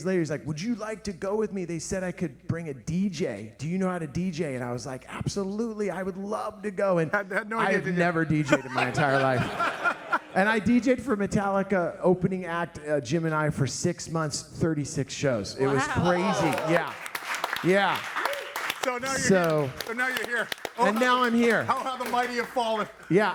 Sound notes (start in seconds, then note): 7.2 all laughing; 15.8 all clapping